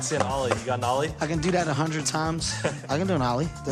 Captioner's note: chuckles